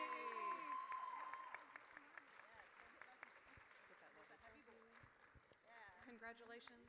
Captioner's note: audience cheers